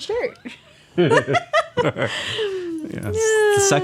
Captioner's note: laughing